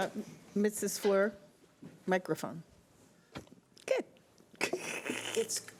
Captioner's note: giggles